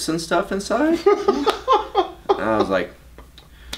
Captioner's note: laughs loudly